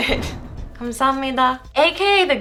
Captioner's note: whooshing; foreign language